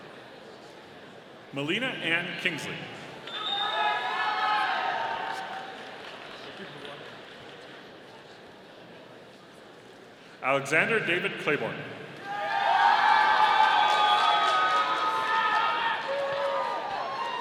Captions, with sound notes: Melina Ann Kingsley. (audience cheering) Alexander David Claiborne. (audience applauding)